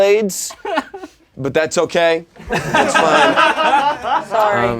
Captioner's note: laughing